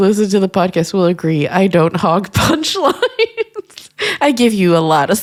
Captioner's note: laughs